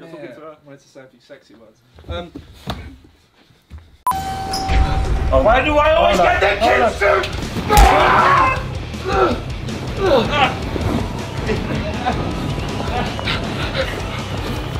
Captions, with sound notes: - Dammit, I wanted to say a few sexy words. - Why do I always get the kids suit? (rock music) (grunting)